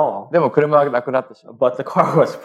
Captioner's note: speaking japanese